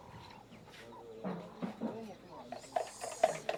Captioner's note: indistinct chatter